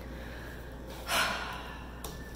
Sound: sighs

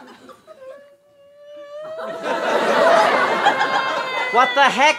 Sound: Samara crying

